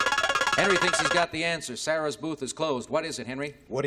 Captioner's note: buzzer